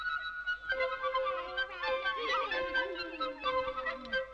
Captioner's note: happy chatter